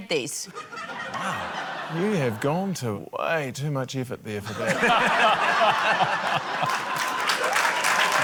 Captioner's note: laughter, applause